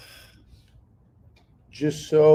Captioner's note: sighs